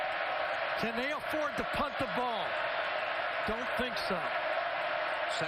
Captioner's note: cheers and applause